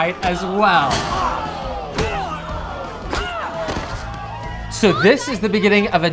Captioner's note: blows thudding